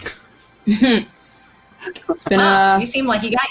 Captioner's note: chuckles